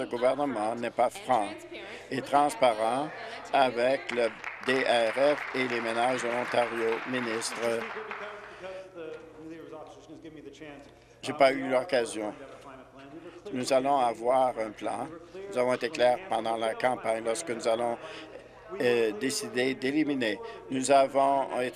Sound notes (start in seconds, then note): 6.7 applause